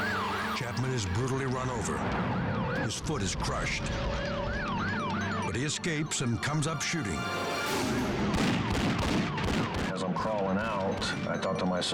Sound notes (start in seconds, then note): 7.7 gun firing